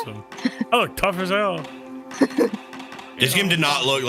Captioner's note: laughs